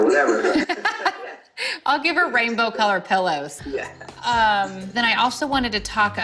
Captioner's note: laughs